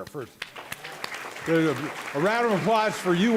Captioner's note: applause